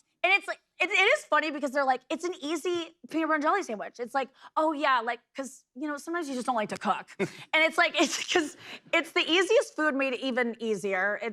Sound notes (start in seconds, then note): none